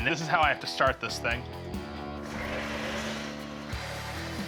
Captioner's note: grinding